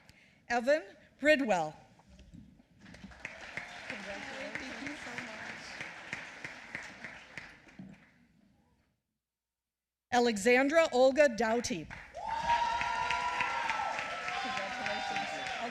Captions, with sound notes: Evan Bridwell. (applause) Alexandra Olga Dowty. (applause)